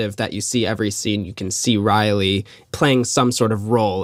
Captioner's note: none